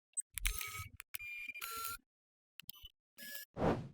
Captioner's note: sound effect